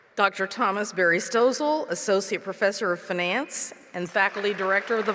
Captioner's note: applause